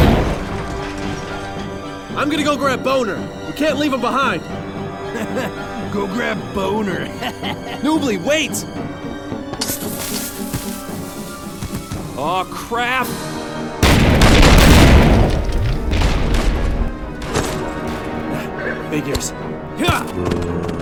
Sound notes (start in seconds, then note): 7.0 laughs; 7.1 laughs off screen